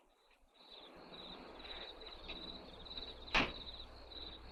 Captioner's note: crickets chirping